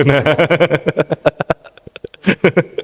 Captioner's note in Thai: เสียงหัวเราะ